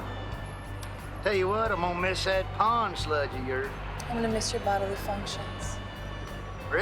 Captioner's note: none